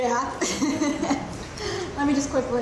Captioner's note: laughs